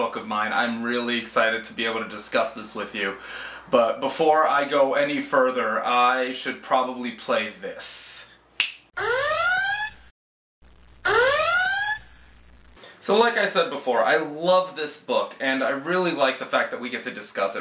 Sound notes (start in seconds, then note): 8.6 snap; 11.0 alarm sounds